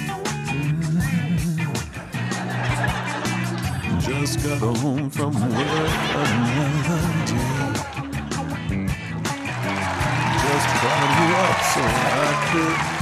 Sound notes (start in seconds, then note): 2.3 audience laughing; 9.2 audience applauding